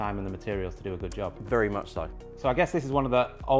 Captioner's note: pat